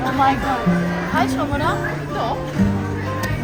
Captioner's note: speaking German